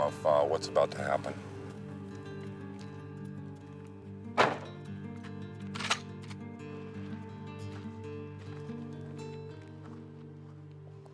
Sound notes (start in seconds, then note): 5.7 gun clicking; 7.1 tense music continues